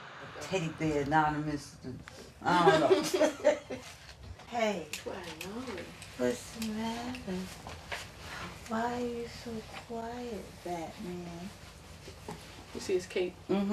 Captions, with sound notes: Teddy bears, anonymous, I don't know. (all laughing) - Hey. Why are you still crying, Batman? - You see his cap?